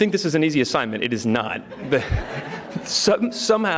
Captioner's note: audience laughing